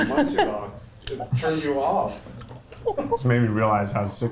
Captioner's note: laughing